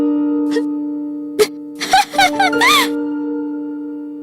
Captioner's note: laughing